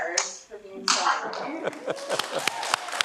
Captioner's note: laughs; everyone applauds